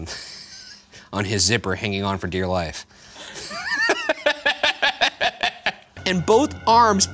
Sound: laughs; laughing

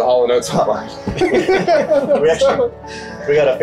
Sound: everybody laughs

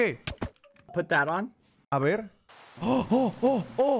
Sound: in English; in Spanish; gasps

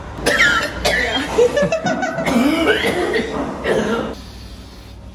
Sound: coughs loudly

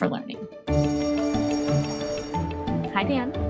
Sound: bell ringing

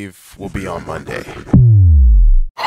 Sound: dwoooohhhmmmm

